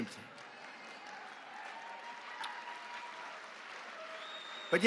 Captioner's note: applause